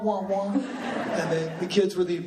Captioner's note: laughing